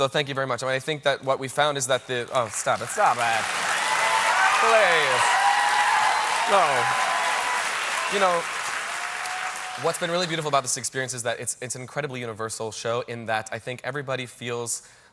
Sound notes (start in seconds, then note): 3.4 applause